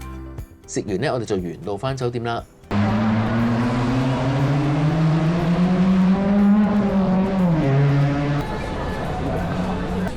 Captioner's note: with loud car noises in the background